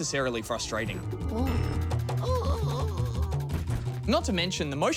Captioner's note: wails